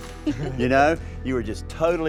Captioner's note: laughs